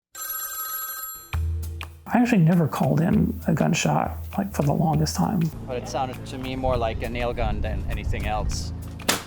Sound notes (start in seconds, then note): 0.1 phone ringing